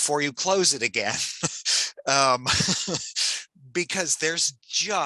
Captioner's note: chuckles